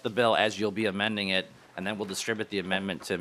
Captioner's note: talking too fast